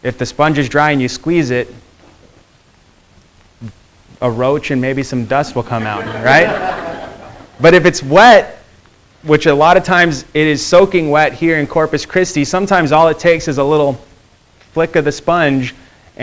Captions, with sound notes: If the sponge is dry and you squeeze it, a roach and maybe some dust will come out, right? (students laughing) But, if it's wet, which a lot of times it is soaking wet here in Corpus Christi. Sometimes all it takes is a little flick of the sponge